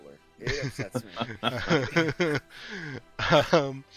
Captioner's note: laughter